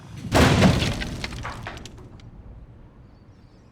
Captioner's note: wall thuds